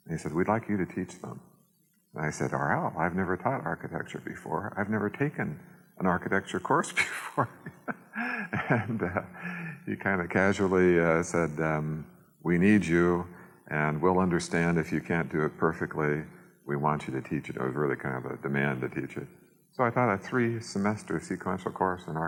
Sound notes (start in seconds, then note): 7.0 laughs